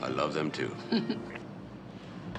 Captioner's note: chuckles